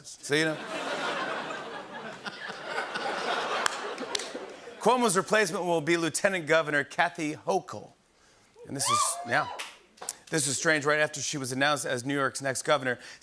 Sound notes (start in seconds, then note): 0.5 laughter; 8.8 crowd cheering